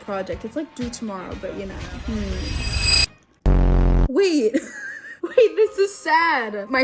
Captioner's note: laughs